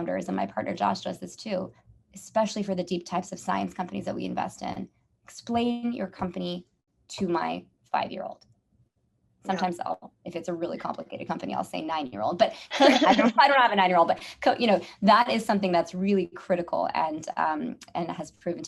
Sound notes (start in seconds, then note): 12.8 laugh